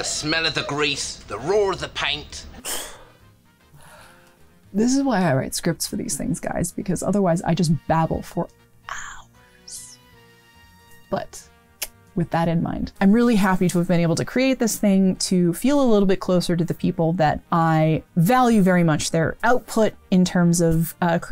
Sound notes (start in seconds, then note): 3.7 sighs